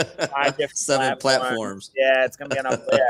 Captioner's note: laughing